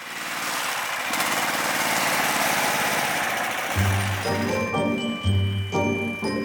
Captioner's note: engine rumbling; gentle music